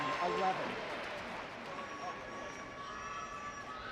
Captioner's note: indistinct chatting